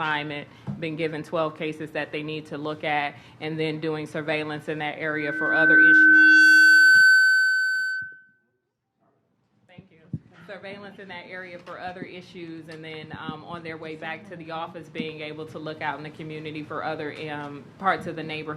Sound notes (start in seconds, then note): 5.0 microphone feedback